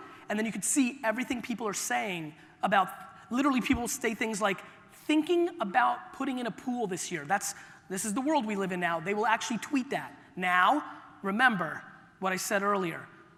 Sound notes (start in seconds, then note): none